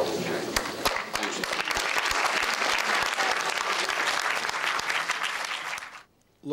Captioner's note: applause